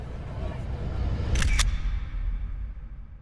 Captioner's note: shutter